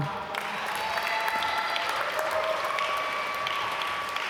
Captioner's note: applause